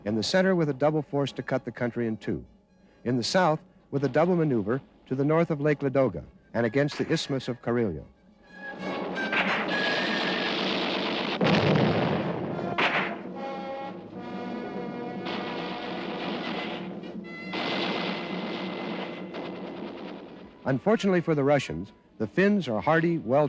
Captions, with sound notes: In the center, with a double force to cut the country in two. In the south, with a double maneuver to the north of Lake Ladoga, and against the Isthmus of Karelia. (dramatic music) (gunfire) Unfortunately for the Russians, the Finns are hardy,